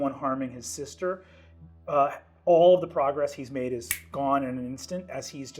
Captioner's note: clicks fingers